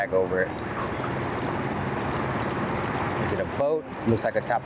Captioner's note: boat humming